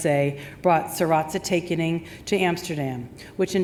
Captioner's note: speaks in foreign language